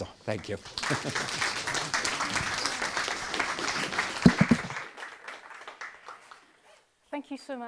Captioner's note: applause